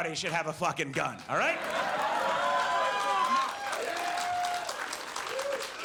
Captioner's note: audience cheers